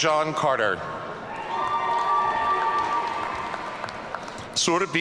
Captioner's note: audience cheering